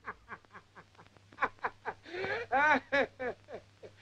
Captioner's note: laughs